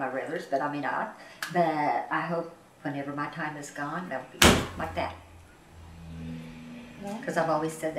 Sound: slams the table

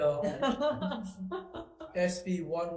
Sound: all laughs

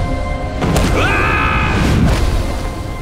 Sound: screaming

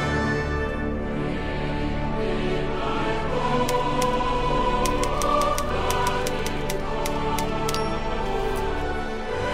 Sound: typewriter clacking

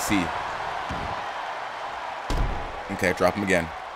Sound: applause

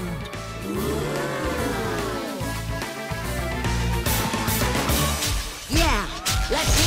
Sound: audience oohs

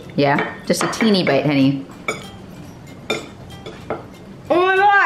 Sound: glass bowl clanging

